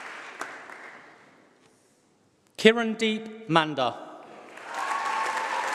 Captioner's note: applause